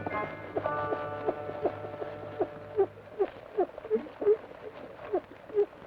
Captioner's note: rocker box squeaks rhythmically